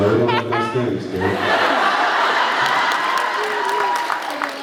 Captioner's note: laughs